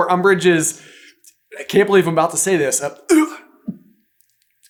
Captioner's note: gags